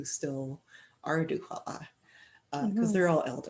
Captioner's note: speaking Indigenous language